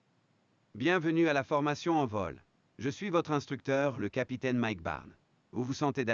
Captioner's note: speaking in a foreign language